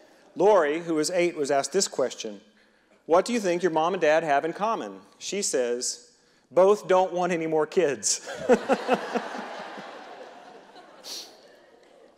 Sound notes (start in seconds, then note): 8.2 reverend and audience laughing